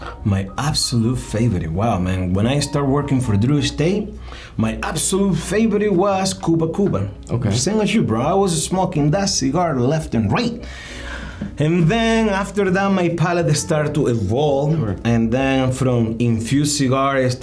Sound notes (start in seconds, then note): 10.6 sighs